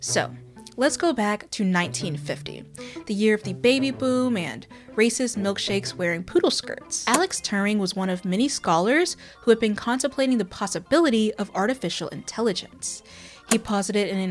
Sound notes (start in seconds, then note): none